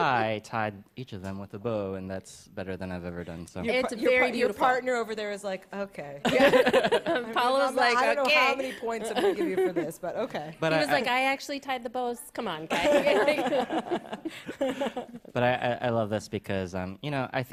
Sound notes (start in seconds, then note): 6.2 laughter; 6.2 chuckles; 12.7 laughter